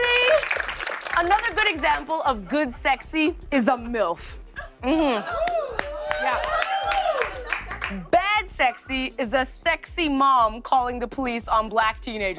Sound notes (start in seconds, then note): 5.3 audience cheers